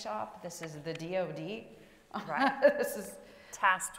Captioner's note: laughs